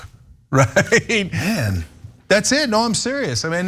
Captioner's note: laugh